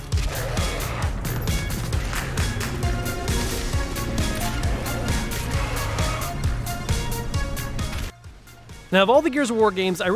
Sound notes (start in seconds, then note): 0.0 gun blasting; 0.0 upbeat rock music; 0.2 monster roaring; 2.0 gun blasting; 4.7 monster roaring